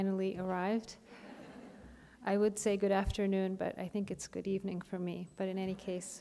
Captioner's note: chuckle